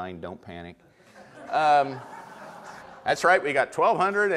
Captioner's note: audience laughter